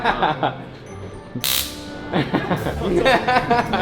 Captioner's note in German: Gelächter